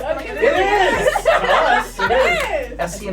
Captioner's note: laughs